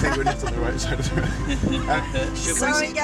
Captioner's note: laughter